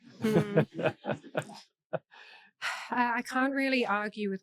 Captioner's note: laughing